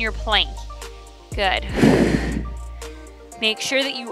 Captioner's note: exhales